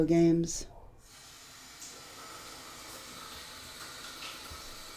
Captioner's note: sound of running water